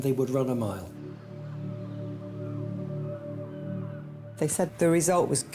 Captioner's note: solemn music; birds cawing